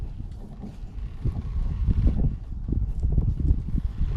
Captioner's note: wind gently blows